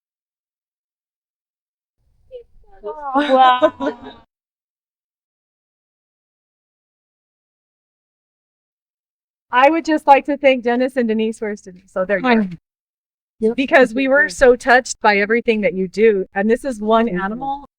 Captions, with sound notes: Wow! [Laughter] I would just like to thank Dennis and Denise. Where is Denise? Because we were so touched by everything that you do and this is one animal